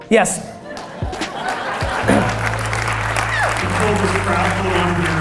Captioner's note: clapping and cheering